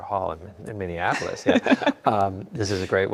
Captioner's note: laughs